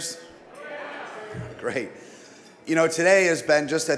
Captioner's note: crowd chatters in agreement